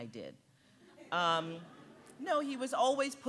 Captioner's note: audience giggling